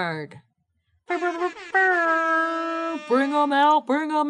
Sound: air horn blasts; imitates air horn

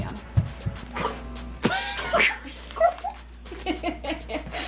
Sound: everyone laughing

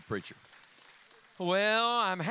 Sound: audience applauding

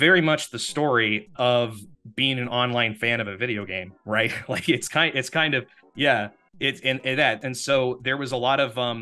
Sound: laughs

